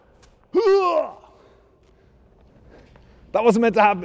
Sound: groans

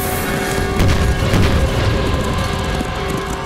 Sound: explosion

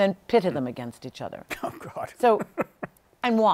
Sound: laughing

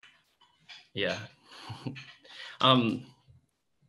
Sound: chuckles

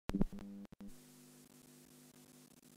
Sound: broadcast noise

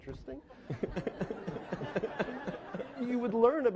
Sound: laughing

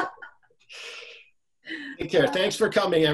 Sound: laughs

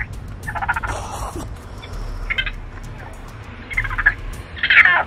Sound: raccoon sounds

